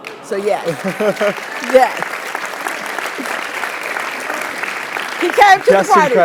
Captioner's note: applause